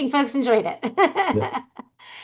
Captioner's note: laughing